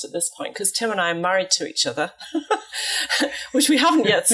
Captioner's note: giggles